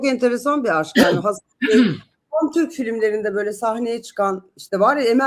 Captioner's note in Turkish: boğazını temizler